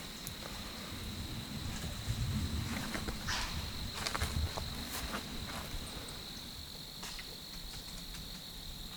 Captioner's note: quiet walking